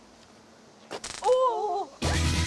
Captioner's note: crack